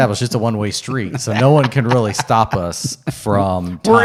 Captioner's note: laughing